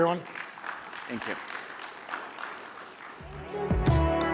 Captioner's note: applause